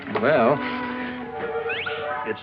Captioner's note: whistle